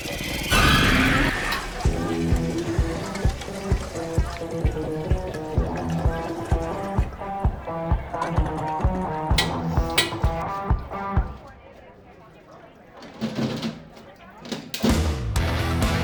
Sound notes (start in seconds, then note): 0.1 loud ominous music; 1.8 upbeat rock music; 2.3 background people chattering